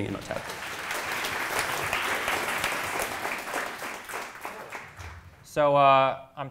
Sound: crowd clapping

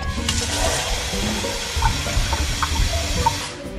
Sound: water whooshing

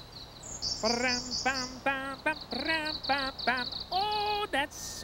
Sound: humming

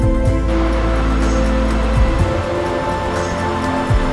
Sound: water falling

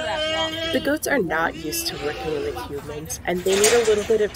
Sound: goats bleating louder, and background talking; continued bleating

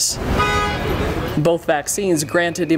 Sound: horn honking

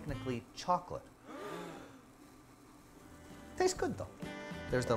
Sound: crowd gasping

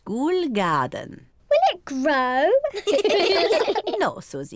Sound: all laugh

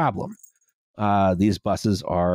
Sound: cat bell jingles

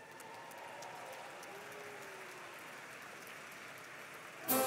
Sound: applause

